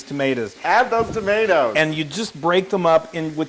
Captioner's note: laugh